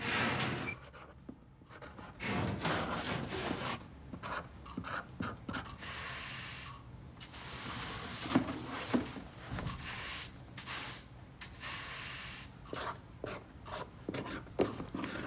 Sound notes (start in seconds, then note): 1.1 metal clanking; 7.3 broom swishing